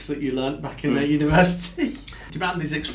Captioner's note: laughs